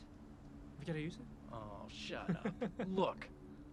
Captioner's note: laughs